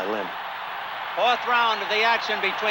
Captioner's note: crowd cheering